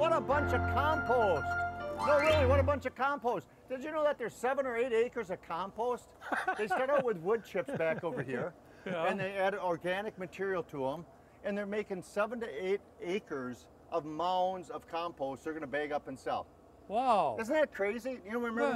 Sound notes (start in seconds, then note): 4.6 laughing